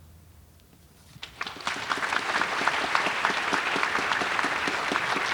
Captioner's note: audience applauding